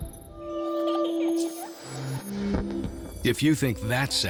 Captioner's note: giggling